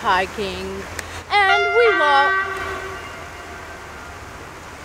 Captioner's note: loud train horns